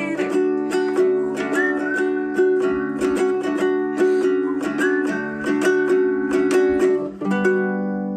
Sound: whistling

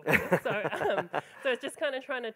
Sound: laughing

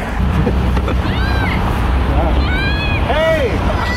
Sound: laughing; distant voice; laughing

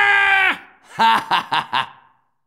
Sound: medic laughing

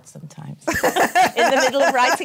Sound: laughs

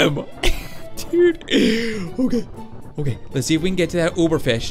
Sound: laughing

